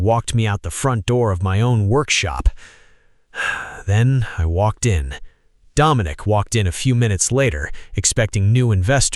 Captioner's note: exhale